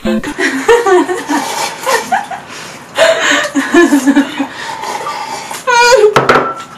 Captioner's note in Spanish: Risas